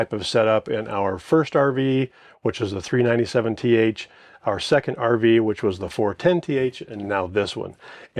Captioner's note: none